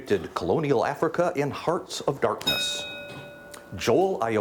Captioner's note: bell dings